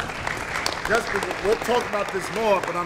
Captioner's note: applause